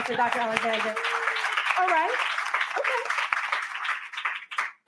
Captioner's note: applause